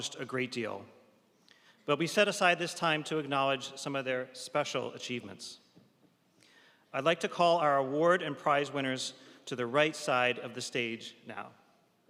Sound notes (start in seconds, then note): none